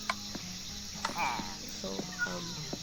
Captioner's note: illager noise